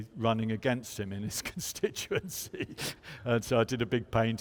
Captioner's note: chuckles